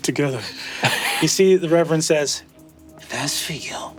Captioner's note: Zac laughs